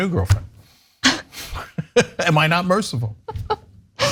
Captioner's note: laugh